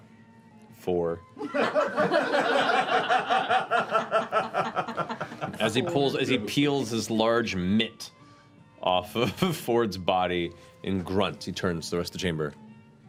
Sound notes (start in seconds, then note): 1.4 laughter